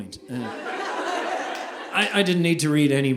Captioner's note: audience laughing